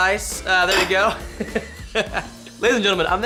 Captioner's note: laughs